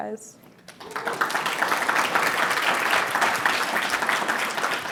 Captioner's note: applause